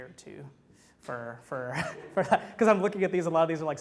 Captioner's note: laughs